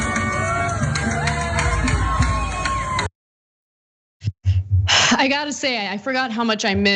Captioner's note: applause